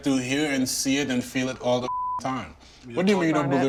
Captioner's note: beep